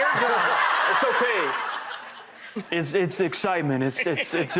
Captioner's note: audience laughing